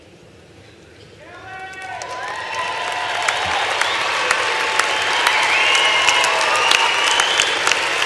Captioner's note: applause